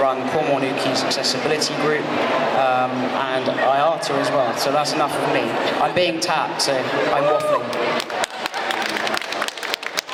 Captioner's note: applause